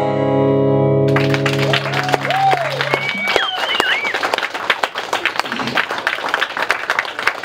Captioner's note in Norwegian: applaus